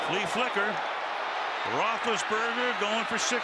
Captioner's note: cheering